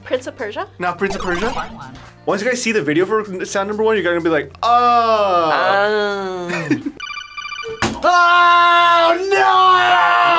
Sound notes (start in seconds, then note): 0.0 buzzer; 7.0 phone rings